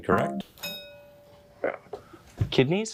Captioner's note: bell dinging